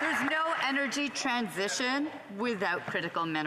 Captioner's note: some Applause